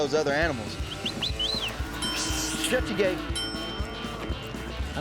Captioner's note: dinging